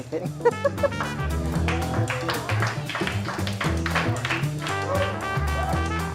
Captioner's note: upbeat music; applause